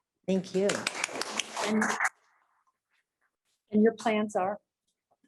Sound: applause

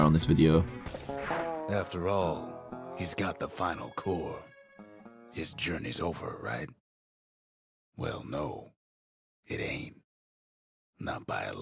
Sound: in-game audio

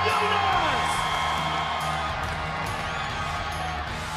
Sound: crowd cheering

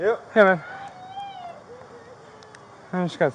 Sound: crying and yelling

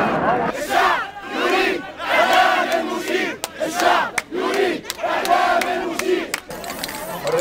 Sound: chants

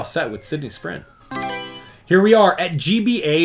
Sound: Mario Selection Sound

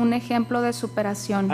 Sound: speaking foreign language

